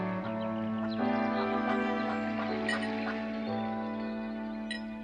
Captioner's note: ducks quack